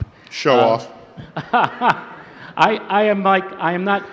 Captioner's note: laugh